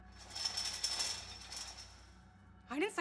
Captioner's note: chains rattling